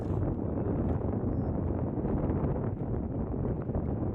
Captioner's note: wind